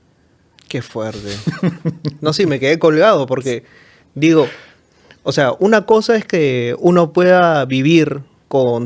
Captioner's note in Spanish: risas